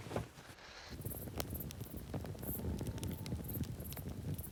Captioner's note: fire crackling